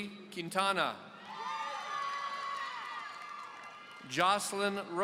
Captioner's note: audience cheering